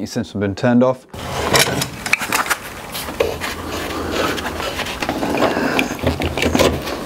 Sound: tools clacking

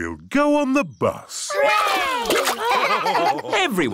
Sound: laughing

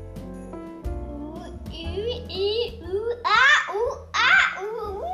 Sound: mumbles

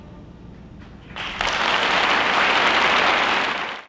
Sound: audience applauding

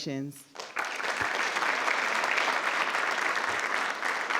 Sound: crowd clapping

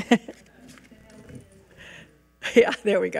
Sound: laughs; regent speaking faintly

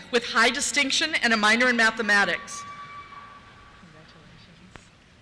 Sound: cheers

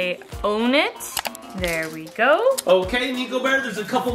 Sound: mouse clicks

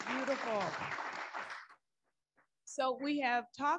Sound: audience applauding

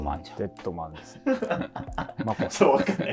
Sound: laughing

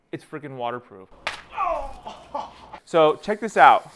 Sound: water splash and man groaning

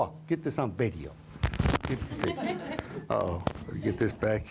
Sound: laughter

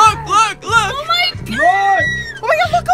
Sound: screams

